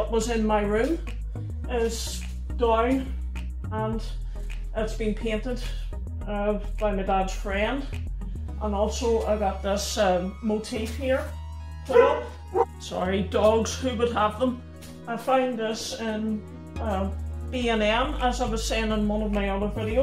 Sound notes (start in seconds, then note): 11.9 Max Barks